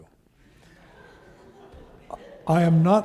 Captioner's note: audience laughing